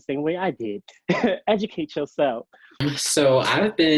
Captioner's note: chuckles